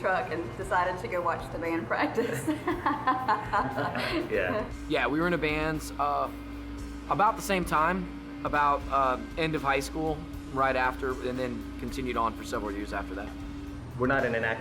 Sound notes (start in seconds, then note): 2.1 laughs